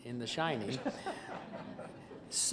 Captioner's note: laughter